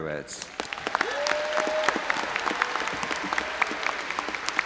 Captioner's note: audience applauding